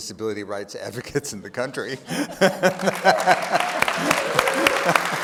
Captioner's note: laughs; audience applauding